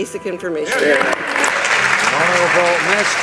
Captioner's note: audience applauding